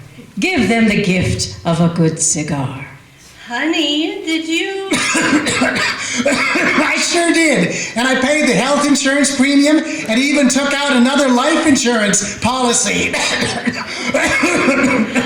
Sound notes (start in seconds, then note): 4.9 violent coughing; 12.7 coughs